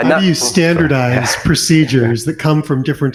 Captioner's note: chuckles